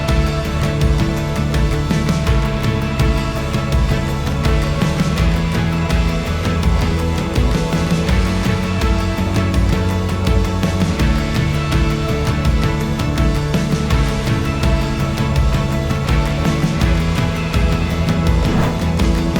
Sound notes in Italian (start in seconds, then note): 5.7 Applauso